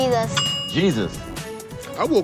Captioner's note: bell dings